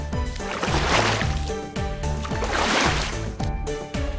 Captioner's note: splash..... Splash